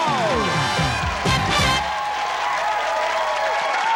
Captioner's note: applause